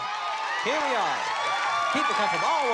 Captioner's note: cheering